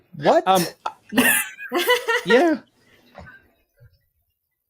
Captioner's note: laugh